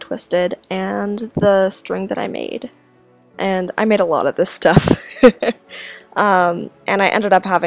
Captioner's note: laughs